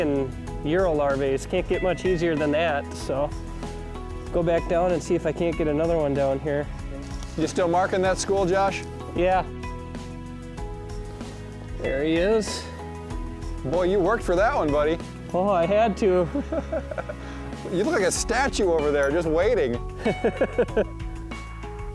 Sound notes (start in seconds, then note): 16.2 laughs; 20.0 laughs